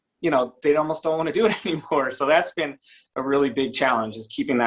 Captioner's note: chuckles